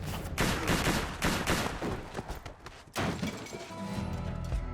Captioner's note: gunshots banging